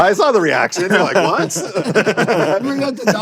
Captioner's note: laughs